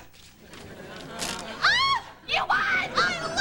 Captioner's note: screams